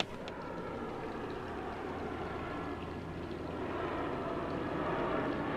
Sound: plane engine roaring

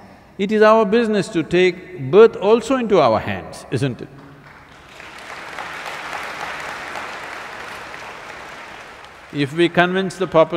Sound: applause

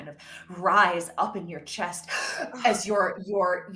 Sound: gasping

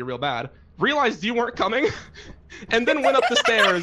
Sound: all laugh

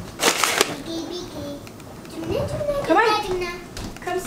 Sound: vocalizing

